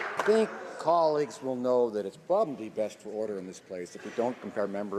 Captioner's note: some Applause